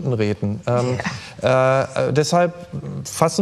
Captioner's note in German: lacht